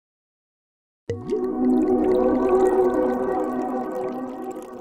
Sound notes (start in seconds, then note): 1.1 wine pours